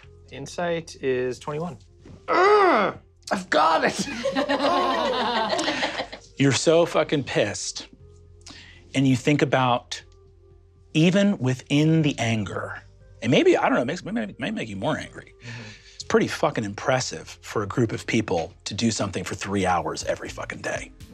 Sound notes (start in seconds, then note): 2.2 growls; 5.3 grunts